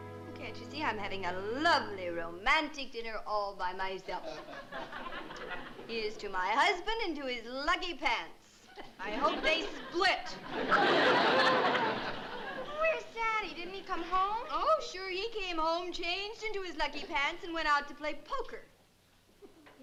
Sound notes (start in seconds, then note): 4.2 laughter; 10.4 laughter